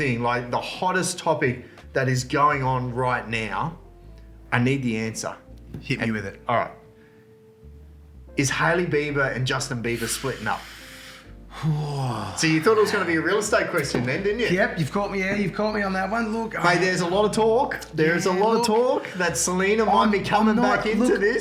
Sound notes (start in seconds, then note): 9.9 inhales